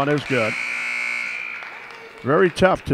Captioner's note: buzzer sounds